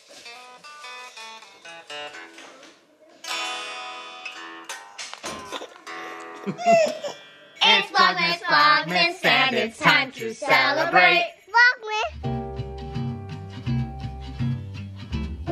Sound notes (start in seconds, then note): 0.3 guitar playing softly; 5.4 chuckling; 7.9 voiceover; 11.5 baby mumbling; 12.1 low funky music